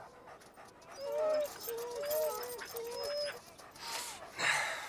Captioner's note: dogs whining